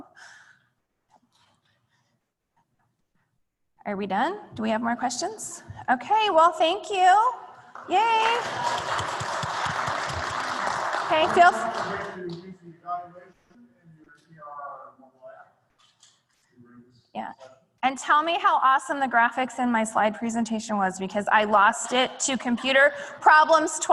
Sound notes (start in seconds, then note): 7.6 applause; 9.5 off mic